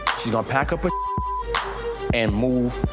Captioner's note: beep